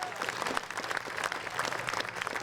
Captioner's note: applause